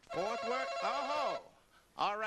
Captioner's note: ringing